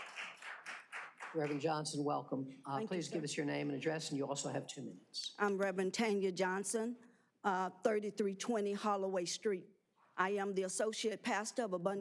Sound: applause

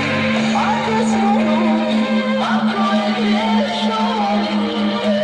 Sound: upbeat pop music in foreign language; ominous boom

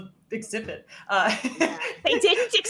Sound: all laughing

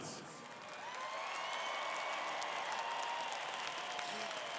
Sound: crowed cheering

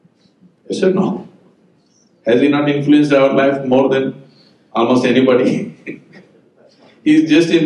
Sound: laughs

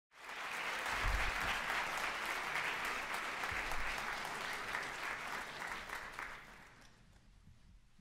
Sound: applause

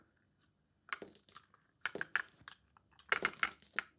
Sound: marbles rolling and clicking

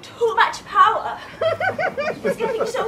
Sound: laughter

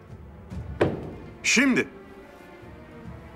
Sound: Cane voice

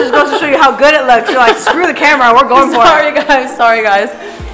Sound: laughs

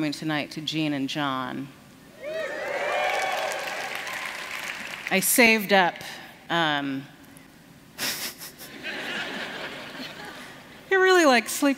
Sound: laughter

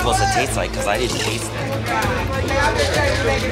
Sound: loud chatter

